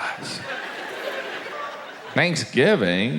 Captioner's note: audience laughs